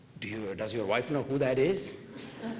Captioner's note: laughter